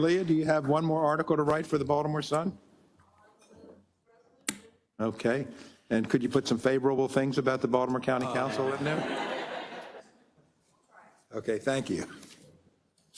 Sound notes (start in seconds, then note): 8.3 laugh